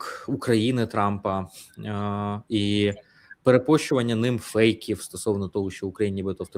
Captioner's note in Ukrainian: сопіння